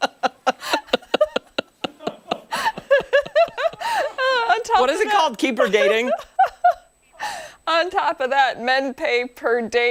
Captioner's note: laughter